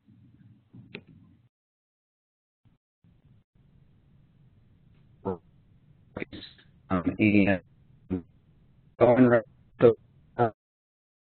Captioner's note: long pause